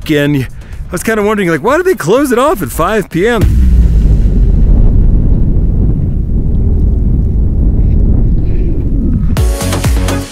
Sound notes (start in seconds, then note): 3.4 air whooshing